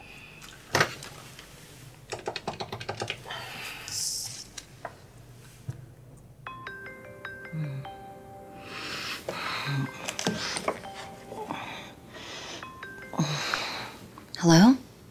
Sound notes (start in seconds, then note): 6.3 cell phone ringing; 8.0 groaning